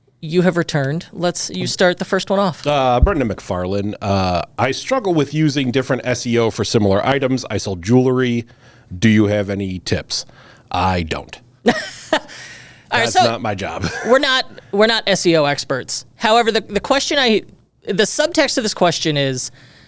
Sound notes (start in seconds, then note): 11.7 laughs